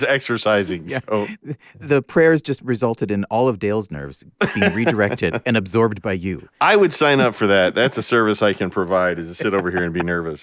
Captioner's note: laughing; laughing